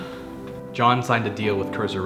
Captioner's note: Diane sighing